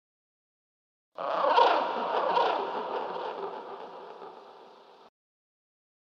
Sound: creature cry

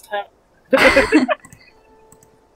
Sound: laughter

